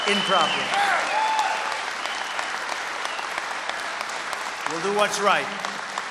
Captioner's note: applause